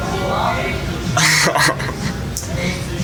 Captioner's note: laughs